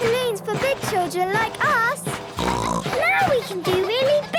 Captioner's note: snorts